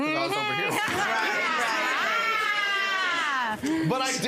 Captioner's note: audience laughs